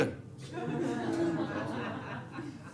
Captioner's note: audience laughing